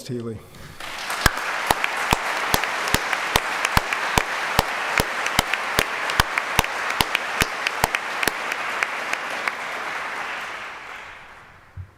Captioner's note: applause